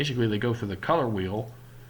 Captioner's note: none